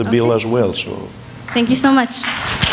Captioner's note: applause